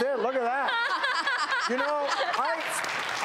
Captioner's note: laughing